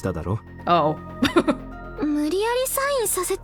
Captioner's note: chuckles